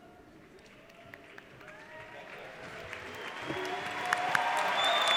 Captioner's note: audience cheers